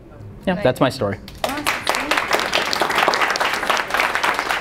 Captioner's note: applause